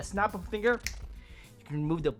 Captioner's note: snap fingers